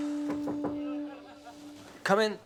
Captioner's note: knock taps